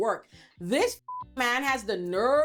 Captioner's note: beep